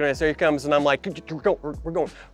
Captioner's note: imitates coach chattering